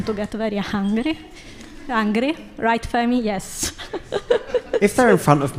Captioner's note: laughing